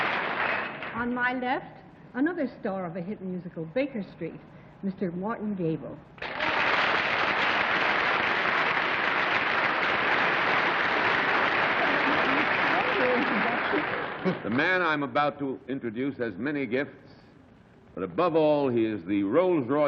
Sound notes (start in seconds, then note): 8.3 applause